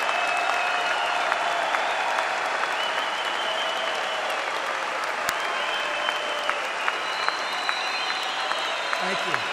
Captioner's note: applause